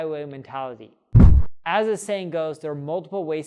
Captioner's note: air whooshing